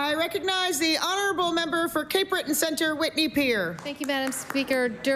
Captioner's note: applause